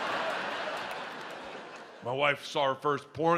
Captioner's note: audience laughs